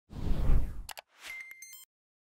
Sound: whooshing; beeping

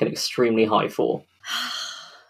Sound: sighs, then laughs

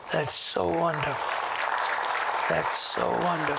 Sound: applause

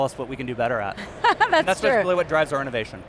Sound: laughs

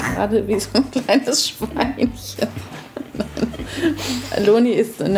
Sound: laughing

